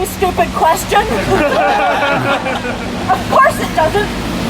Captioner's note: laughter